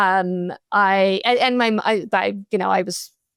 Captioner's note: stutters